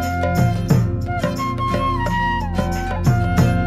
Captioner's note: none